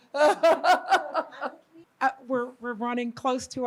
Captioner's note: laughs